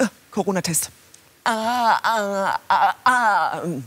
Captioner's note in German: würgt